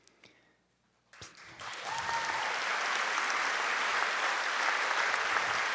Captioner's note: audience clapping